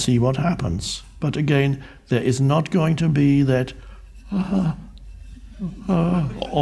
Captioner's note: moans